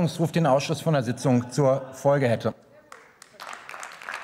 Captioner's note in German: Beifall